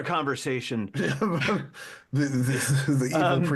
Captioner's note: laughing